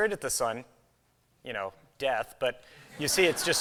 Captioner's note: laughter